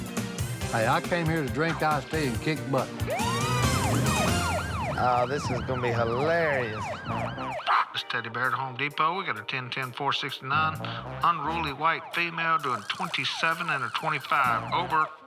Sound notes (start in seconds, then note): 2.9 siren wailing